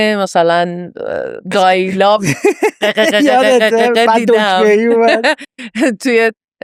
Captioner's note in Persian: خنده